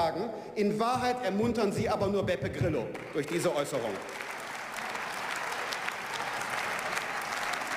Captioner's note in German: Beifall